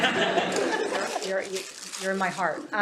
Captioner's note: laughter